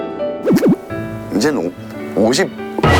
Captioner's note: hesitates